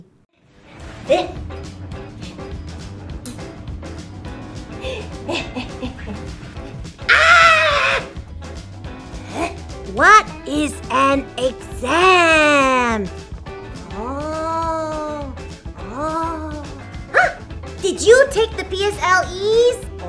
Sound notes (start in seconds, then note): 7.0 screams